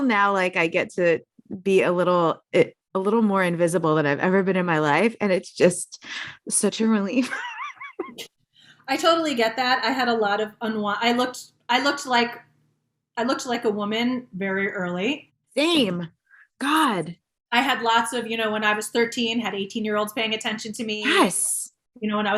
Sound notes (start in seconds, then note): 7.2 chuckling